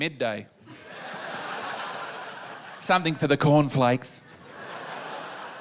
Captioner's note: laughter